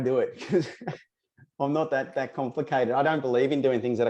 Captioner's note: chuckles